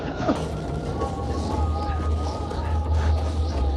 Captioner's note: both moaning; wind howling; dramatic music